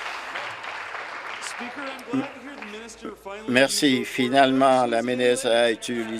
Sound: applause

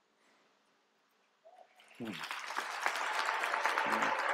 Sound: applause

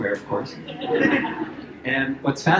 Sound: laughter

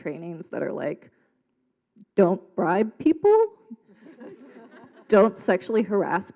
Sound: laughing

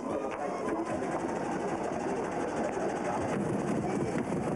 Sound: motor knocking

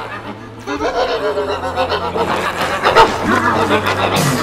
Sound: weird witch noises; weird witch noises INTENSIFY

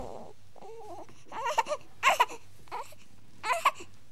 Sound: baby crying

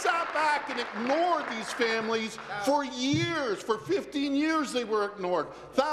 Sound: applause

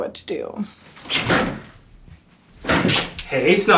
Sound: door opens

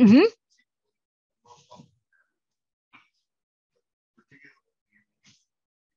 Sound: participant faintly speaking

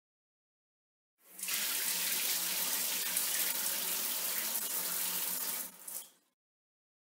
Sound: sound of bathroom shower

